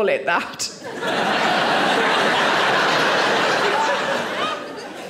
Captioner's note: audience laughing